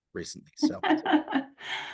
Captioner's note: laughs